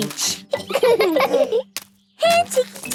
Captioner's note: laughing